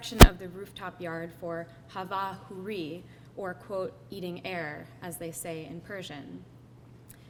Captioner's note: foreign language spoken